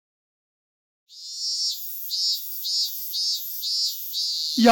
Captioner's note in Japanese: セミの声